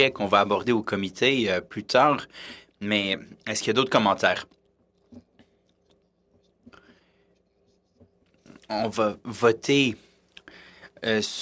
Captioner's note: speaking French